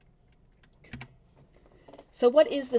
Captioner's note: keyboard clicks